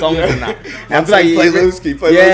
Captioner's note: laughs